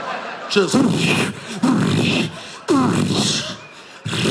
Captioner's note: imitates explosions